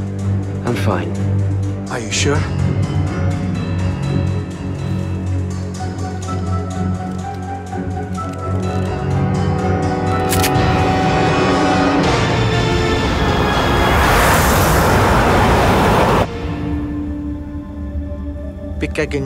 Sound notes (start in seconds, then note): 4.2 suspenseful music; 10.2 gun clicking; 16.6 somber music; 19.0 speaking foreign language